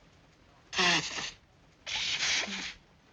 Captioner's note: blowing nose